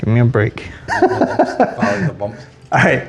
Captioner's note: laughs